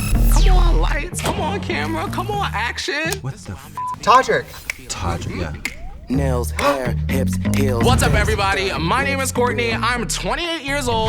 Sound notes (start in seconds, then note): 3.8 beep